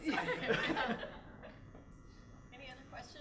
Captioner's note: laughter